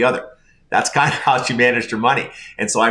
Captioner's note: laughing